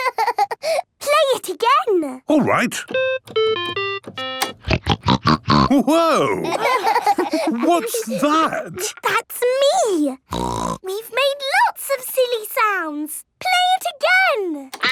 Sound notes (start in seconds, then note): 0.0 laughing; 2.4 playing theme song; 4.6 snorting; 6.0 laughter; 10.2 snorting